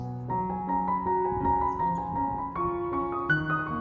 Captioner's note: birds singing